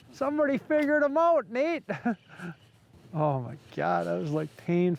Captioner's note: chuckles